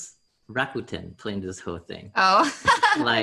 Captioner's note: laughs